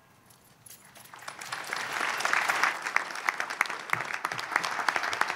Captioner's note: audience applauds